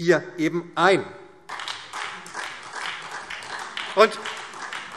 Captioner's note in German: Beifall SPD